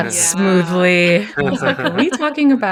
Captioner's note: laughs